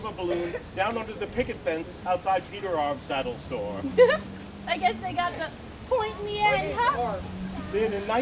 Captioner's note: giggles